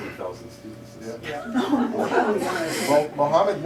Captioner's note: laughter